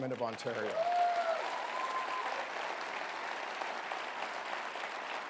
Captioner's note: applause and cheering